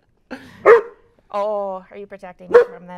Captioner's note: Rose barks